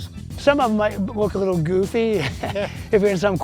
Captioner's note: laugh